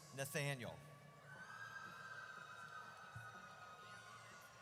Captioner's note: audience cheers